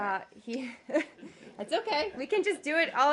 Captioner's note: laughter